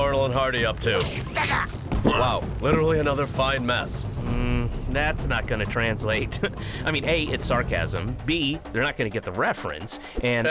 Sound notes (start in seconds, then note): 1.9 men grunting